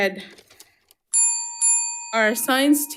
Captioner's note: bell ringing